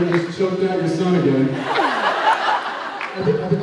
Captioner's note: laughs